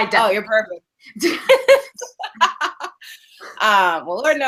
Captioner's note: laughing